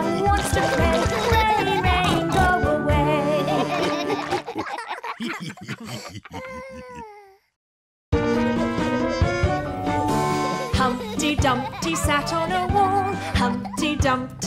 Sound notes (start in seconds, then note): 3.4 laughter; 11.2 singing